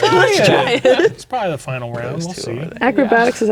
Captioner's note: speaking quietly